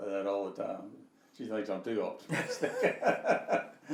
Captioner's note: laughing